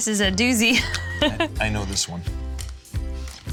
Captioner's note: laughing